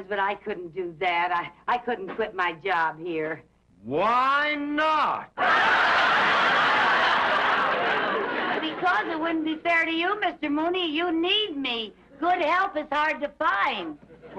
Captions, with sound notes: but I couldn't do that. I couldn't quit my job here. - Why not? (audience laughs) - Because it wouldn't be fair to you, Mr. Mooney. You need me. Good help is hard to find.